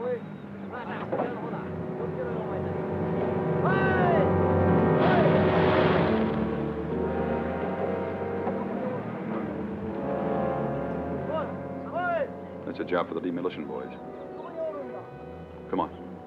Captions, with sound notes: (Japanese soldiers chattering) (soldier yells) (deep somber music) That's a job for the demolition boys. Come on.